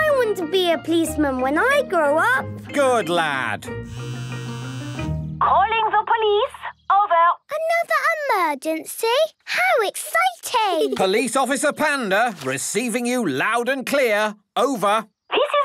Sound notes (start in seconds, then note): 4.0 phone ringing